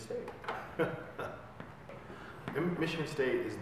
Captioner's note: man laughing